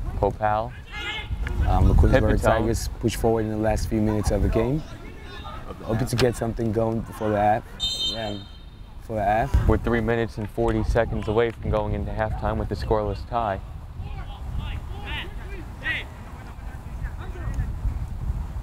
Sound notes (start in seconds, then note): 7.7 whistle blows; 13.9 players talking and yelling